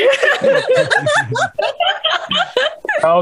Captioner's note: risas